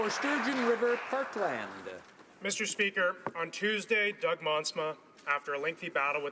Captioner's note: applause